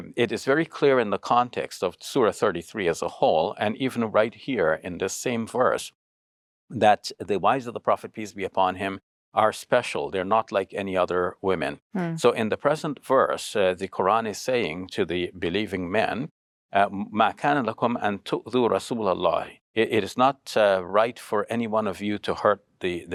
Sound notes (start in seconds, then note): 16.9 speaking Arabic